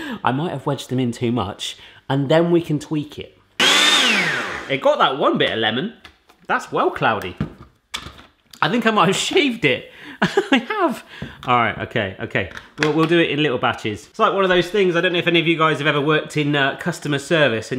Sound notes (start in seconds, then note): 3.6 blender whirs